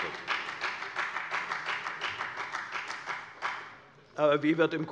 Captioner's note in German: Beifall bei der FDP